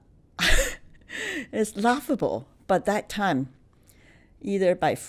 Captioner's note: laughs